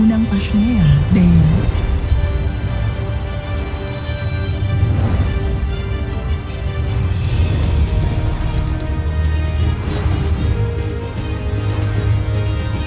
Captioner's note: fluttering